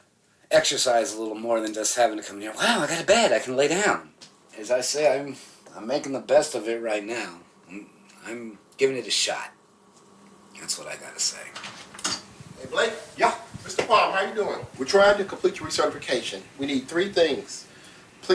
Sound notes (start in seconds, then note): 11.5 door opens